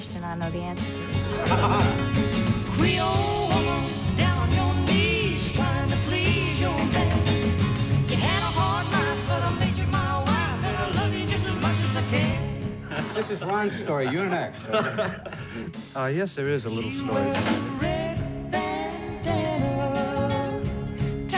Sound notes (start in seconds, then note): 1.0 show host laughing; 14.8 laughing